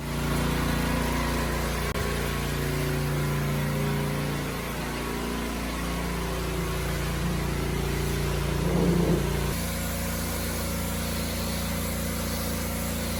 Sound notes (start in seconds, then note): 0.2 sound of a petrol-powered motor; 5.0 sound of high-pressure water